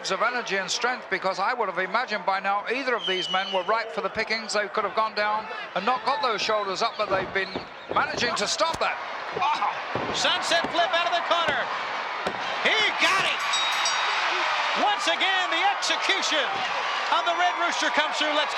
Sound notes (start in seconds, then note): 13.0 bell rings; 13.7 audience cheering